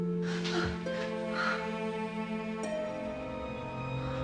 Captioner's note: Maggie moaning; dramatic music